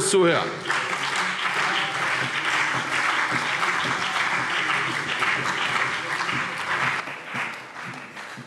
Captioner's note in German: Beifall CDU und BÜNDNIS 90/DIE GRÜNEN